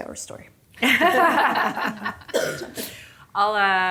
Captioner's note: group laughing